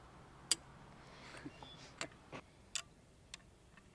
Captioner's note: click